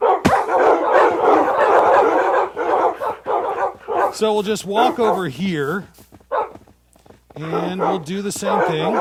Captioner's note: wolves barking